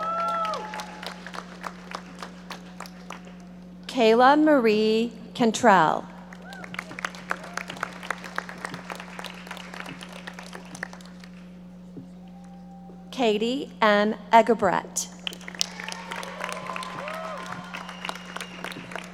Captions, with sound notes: (audience applauding) Kayla Marie Cantrell. (audience applauding) Katie M. Egebrecht. (audience applauding)